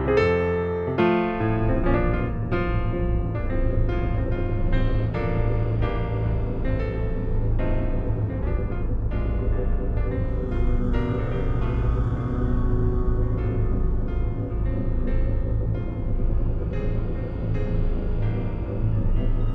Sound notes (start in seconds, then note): 3.0 ominous rumble